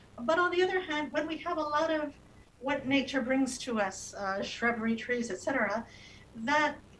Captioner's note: speaking non-english